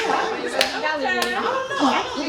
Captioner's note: chatter